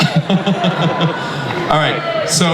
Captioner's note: Chris laughs